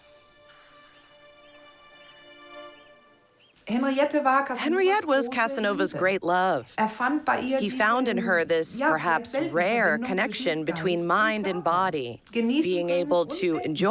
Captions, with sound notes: [speaking German] [voice-over] Henriette was Casanova's great love. He found in her this perhaps rare connection between mind and body, being able to enjoy and to think.